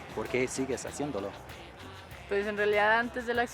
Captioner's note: speaking spanish